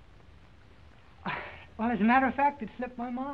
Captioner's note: sighs